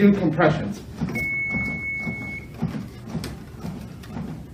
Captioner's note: beeping